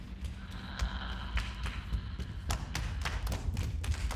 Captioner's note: clapping